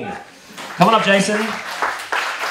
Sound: applause

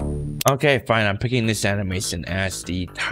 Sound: button click

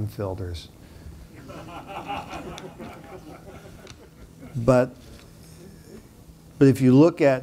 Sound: laughter

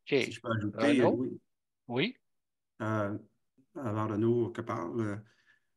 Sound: speaking foreign language

